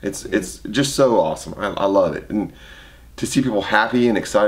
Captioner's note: none